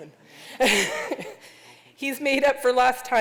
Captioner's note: laughter